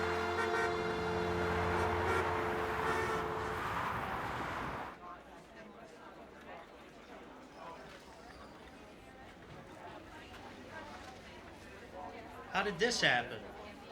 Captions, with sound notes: (car horns honking) (people chattering) - How did this happen?